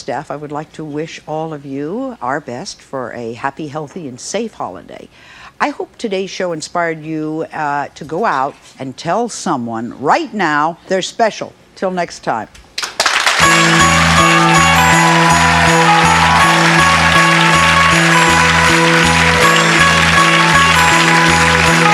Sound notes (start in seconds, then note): 12.7 audience clapping; 13.6 holiday music; 15.5 audience cheering